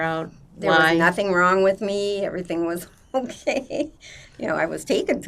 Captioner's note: laughing